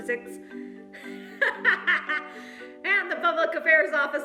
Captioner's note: laughs